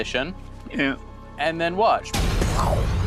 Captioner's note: whooshes